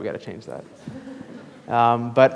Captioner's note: class laughs